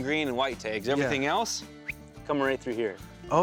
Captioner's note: whistles